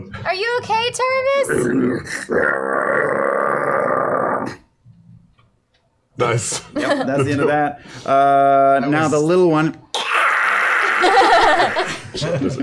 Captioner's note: growling